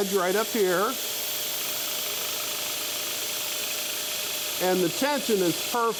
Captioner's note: scroll saw buzzing